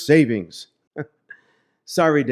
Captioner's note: chuckle